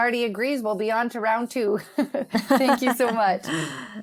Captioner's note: laughs